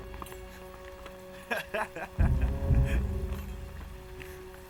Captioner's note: laughing